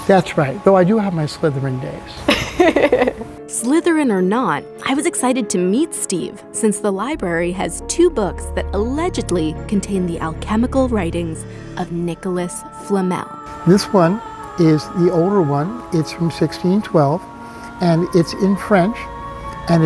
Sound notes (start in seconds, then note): 2.3 laughs